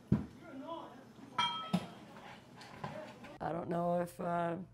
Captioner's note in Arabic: تتمتم